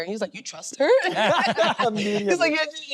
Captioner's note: all laughing